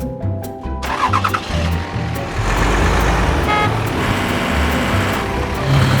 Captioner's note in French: Bruit de camions; Bruit de ronflement accompagnant les bruits de camions